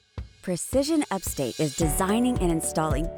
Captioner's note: voiceover